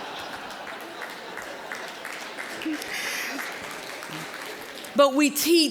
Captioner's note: audience laughing; scattered applause